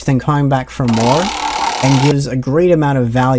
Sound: roulette wheel spinning

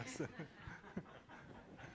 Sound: laughter

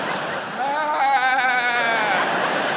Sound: Jim fake laughs; audience laughs

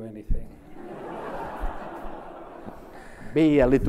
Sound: laughs

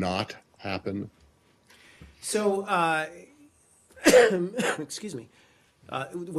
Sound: coughing

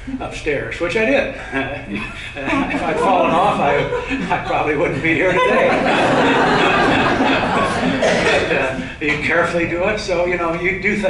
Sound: laughter

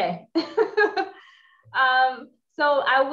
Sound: laughs

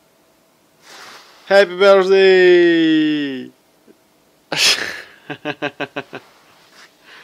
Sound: laughter

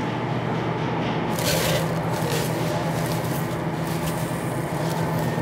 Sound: ingredients sprinkling

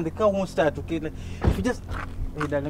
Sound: door slams

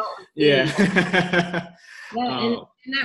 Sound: laughs

